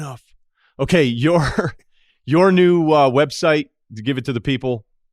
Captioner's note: laughs